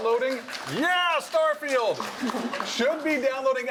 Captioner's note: applause